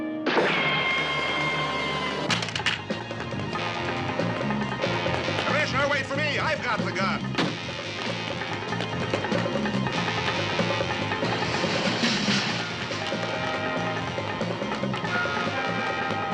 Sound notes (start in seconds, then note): 0.2 mermi sekmesi; 2.5 Silah tıkırtı